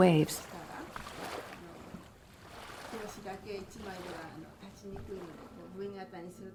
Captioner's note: speaking in foreign language